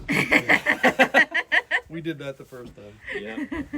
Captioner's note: laughter